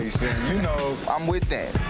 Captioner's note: person laughs